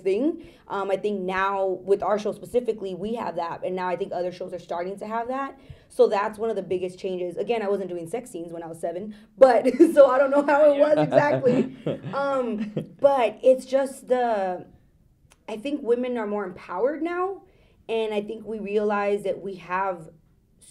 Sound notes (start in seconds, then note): 10.9 laughs